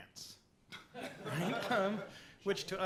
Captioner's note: laughter